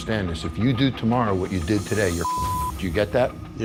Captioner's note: beep